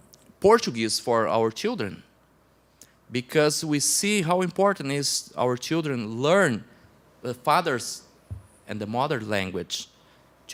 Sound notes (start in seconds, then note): none